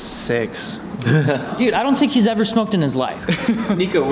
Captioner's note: laughs; laughs